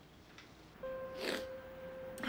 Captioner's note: sniffles